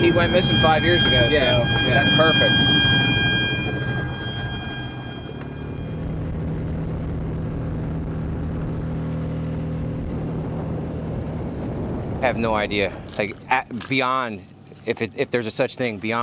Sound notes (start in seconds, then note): 4.2 machine beeping; 5.8 boat engine growling